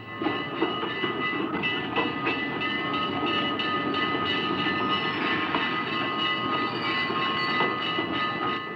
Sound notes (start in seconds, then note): 0.0 train bell ringing; 0.0 train wheels clanking